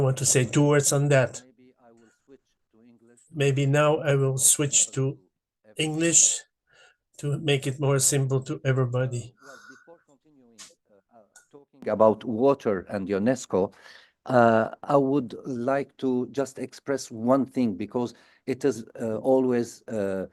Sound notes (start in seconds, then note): 11.5 in English